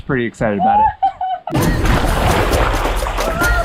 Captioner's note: laughs; upbeat music